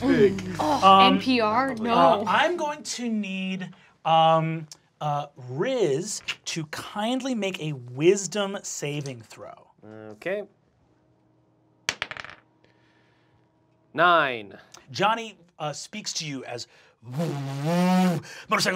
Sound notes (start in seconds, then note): 11.9 die clacks; 16.2 revving